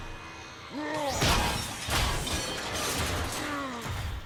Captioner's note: Grimlock roars